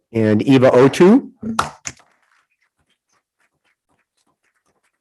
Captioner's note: group applauding